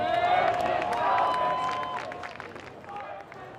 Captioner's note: crowd cheers